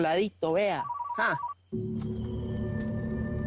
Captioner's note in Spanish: Suena el celular